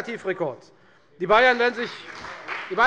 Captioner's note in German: Beifall bei der FDP